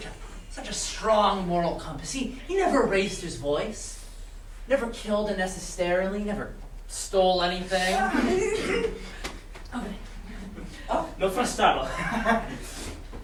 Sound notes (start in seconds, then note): 7.8 sailors coughing; 12.1 speaking grammelot